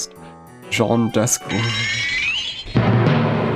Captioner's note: newtype flash sound